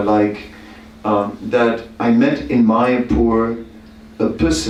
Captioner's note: none